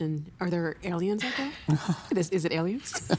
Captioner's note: laughing